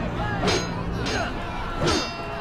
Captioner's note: metal clanging